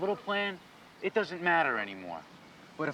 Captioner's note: none